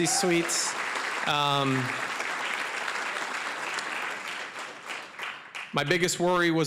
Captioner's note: applause